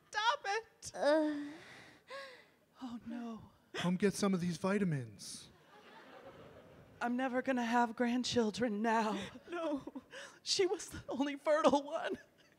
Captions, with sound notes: - Oh, no. - Come get some of these vitamins. [audience laughing] - I'm never going to have grandchildren now. No, she was the only fertile one.